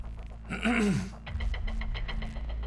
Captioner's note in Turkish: Gerilim müziği; Boğaz temizleme sesi